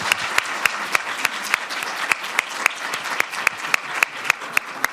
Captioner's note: applause